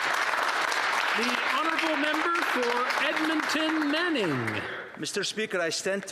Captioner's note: some Applause